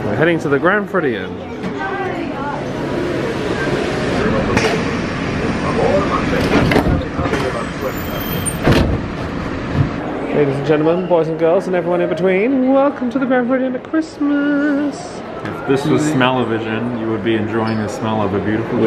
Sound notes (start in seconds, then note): 5.7 doors slam shut